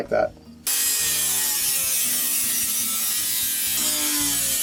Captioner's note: high-pitched whirring